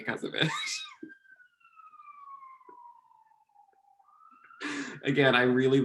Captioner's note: laughing